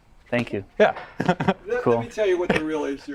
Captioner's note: laughing